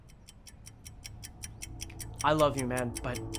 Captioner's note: clock ticking